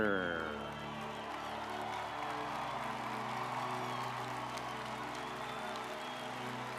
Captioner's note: audience cheering